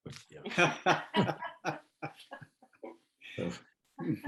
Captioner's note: laugh